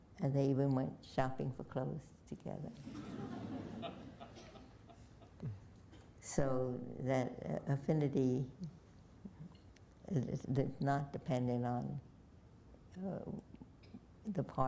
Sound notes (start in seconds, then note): 2.8 laughter